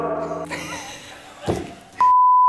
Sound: laughing

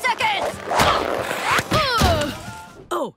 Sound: grunting

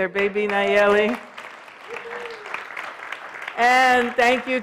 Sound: applause

